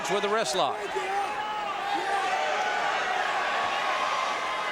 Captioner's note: audience cheering